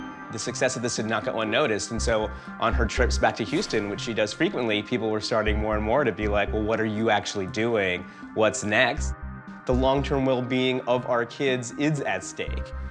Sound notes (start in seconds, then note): none